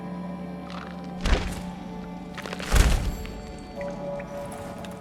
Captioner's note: thudding footsteps